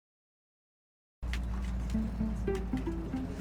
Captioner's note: road noise